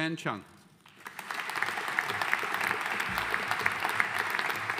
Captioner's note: audience applauding